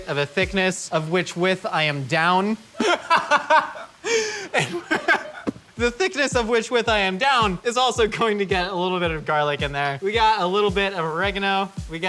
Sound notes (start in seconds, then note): 2.7 laughing